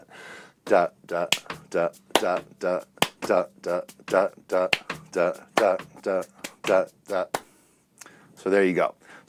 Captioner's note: vocalizes rhythm